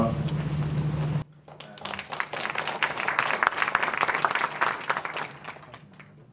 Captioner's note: applause